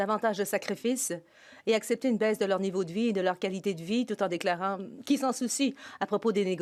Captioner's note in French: voix de l'interprète